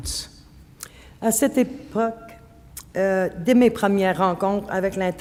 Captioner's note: speaking French